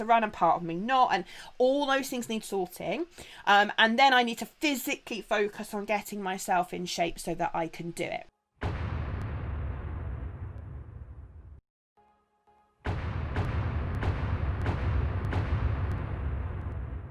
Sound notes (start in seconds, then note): 8.6 booming noise; 12.8 punctuated booming